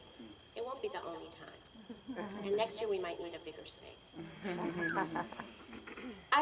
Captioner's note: laughter